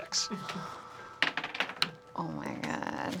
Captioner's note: dice clattering